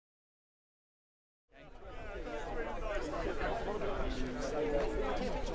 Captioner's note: crowd noise